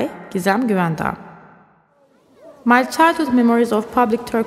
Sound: the ambience of a Turkish Hammam fades in, and continues throughout the piece

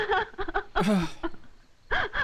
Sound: sighs

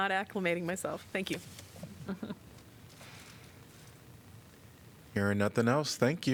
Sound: laughter

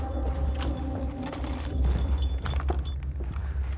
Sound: dog tag jingles and rapid footsteps

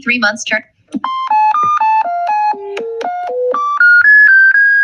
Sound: varied beeping tones

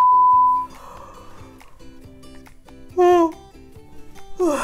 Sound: high-pitched toning; yawning

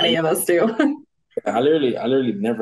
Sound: chuckles

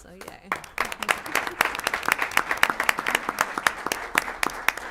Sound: applause

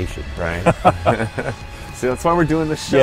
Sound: laughing

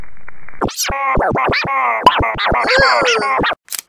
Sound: dissonant, loud, feedback; camera shutter

